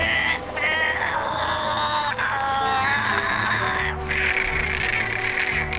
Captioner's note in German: Stöhnen, Ächtzen